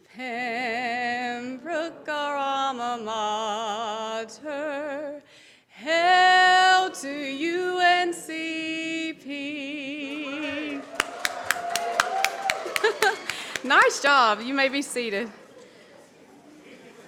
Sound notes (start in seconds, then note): 10.0 audience cheers; 11.0 laughs